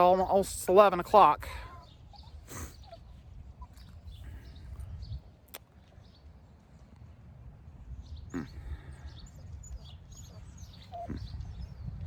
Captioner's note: Ella continues whimpering